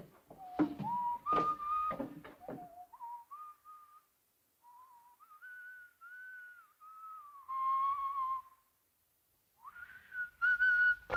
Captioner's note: Harry whistling